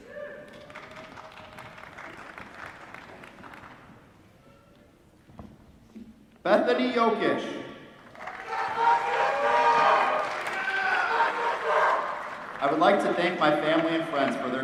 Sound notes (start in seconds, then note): 0.4 applause; 8.0 applause